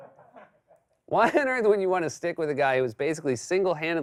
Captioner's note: normal voice